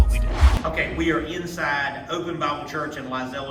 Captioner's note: whoosh